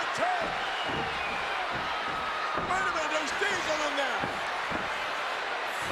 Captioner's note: applause; applause